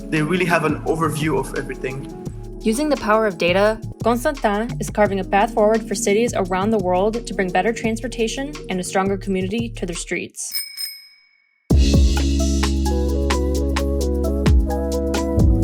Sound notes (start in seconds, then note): 10.5 bell ringing; 11.7 upbeat instrumental music